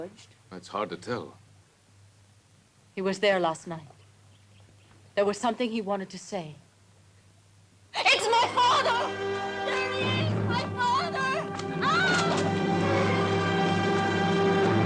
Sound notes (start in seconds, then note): 11.8 screams; 12.9 suspenseful music